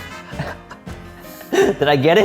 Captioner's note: laughing